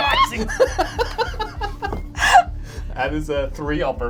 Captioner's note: all laugh